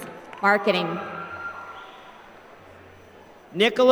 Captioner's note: applause